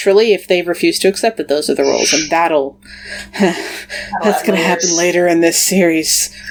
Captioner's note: nervous laugh